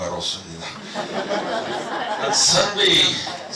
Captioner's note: laughs; 웃음